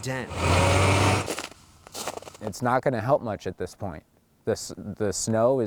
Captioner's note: walking